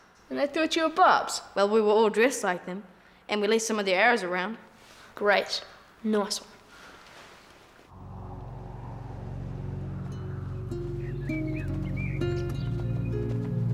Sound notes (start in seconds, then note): 8.0 somber guitar music; 8.2 birds singing